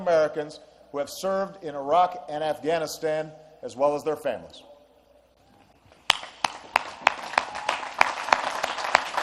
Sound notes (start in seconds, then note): 6.0 applause